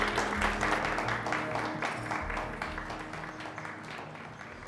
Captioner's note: chattering